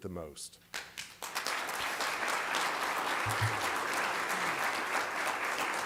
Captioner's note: applause